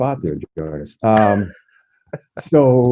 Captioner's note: laughs